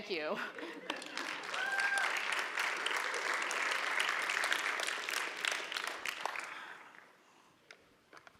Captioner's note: applause